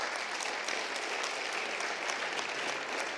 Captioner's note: applause